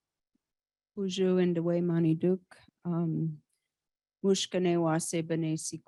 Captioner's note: speaking indigenous language